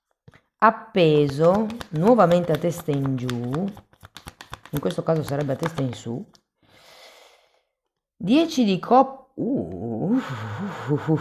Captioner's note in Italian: sospiri